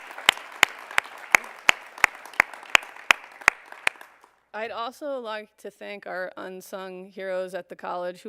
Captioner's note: applause